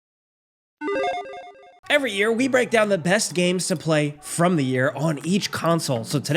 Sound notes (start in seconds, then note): 0.8 digital chiming